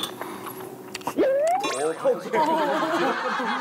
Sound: exhales

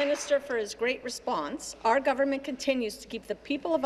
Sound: applause

